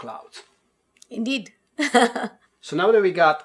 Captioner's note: laughs